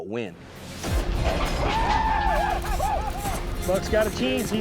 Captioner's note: cowboys shouting